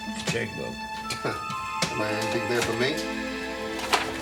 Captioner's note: scoffs